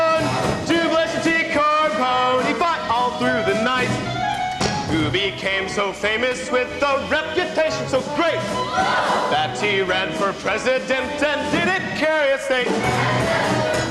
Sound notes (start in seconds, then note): none